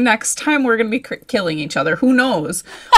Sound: laughs

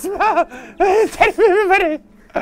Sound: gurgling excitedly; gurgling and laughing

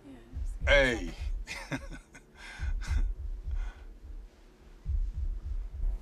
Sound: chuckling

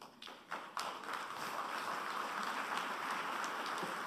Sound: applause

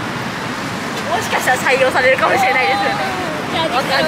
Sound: laughs

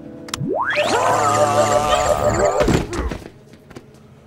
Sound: electronic zapping

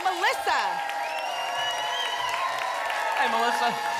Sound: applause and cheering cont

